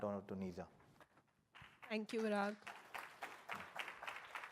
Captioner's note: applause